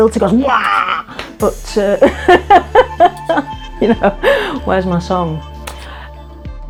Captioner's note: laughs